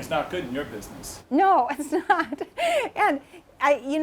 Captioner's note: laughs